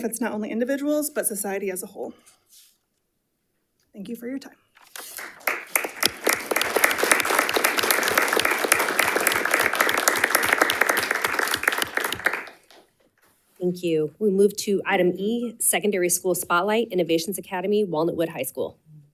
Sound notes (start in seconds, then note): 4.8 group applauds